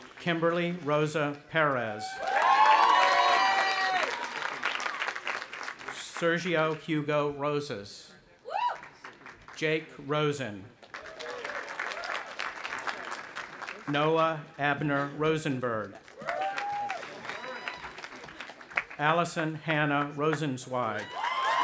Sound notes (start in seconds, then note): 2.0 audience applauding and cheering; 8.4 cheering; 10.8 audience applauding; 16.0 audience applauding and cheering